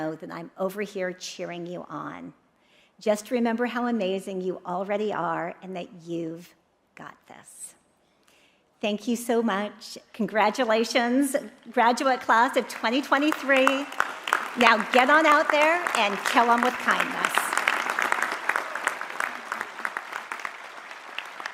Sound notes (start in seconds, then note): 17.8 audience applauding